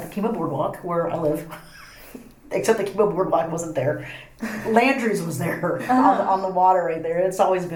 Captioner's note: laughs